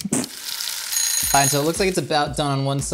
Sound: timer ringing

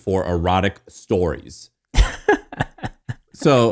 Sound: laughing

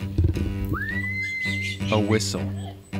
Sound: whistle trilling

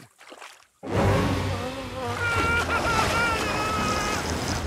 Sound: bomb screams

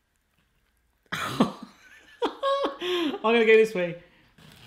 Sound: laughing

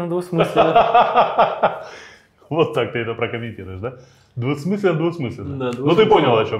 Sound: laughs

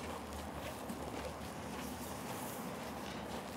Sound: footsteps

